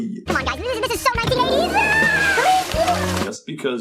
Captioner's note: flushes